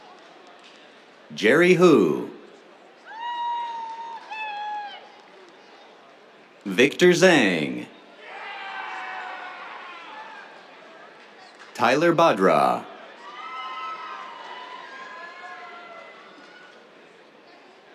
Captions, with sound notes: Jerry Hu. [CHEERS] Victor Zhang. [CHEERS] Tyler Bhadra. [CHEERS]